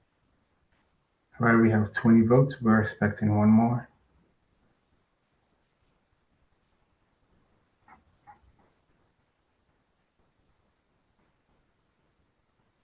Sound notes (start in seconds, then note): 1.4 pause; 8.6 pause